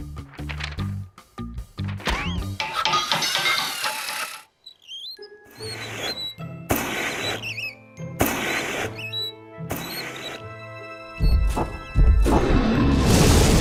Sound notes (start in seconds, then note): 2.5 hammering and metal clanging; 2.7 wheels squeaking; 11.4 dragon roars